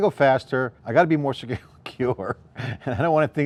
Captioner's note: laughs